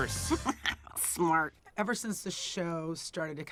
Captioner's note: laughing